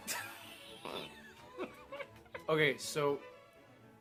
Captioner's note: demented giggling